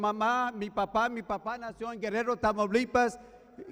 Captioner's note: speaking foreign language